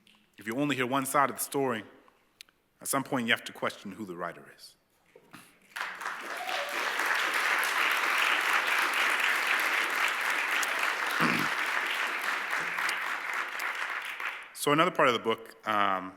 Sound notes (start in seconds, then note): 5.7 cheers and applause